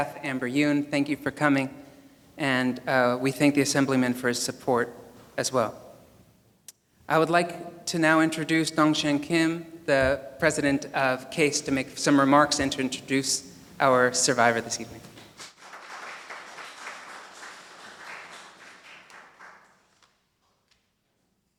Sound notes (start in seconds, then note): 15.2 audience applauding